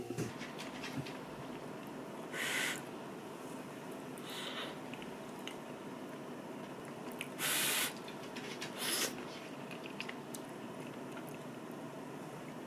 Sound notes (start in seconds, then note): 8.8 blow and slurp the noodles